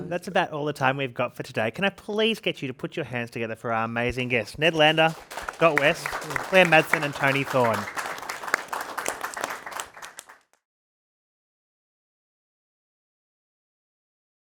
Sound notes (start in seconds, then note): 7.6 participants clapping